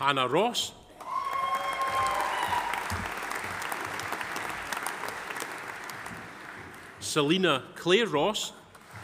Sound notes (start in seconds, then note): 1.0 audience applauding; 1.0 audience cheering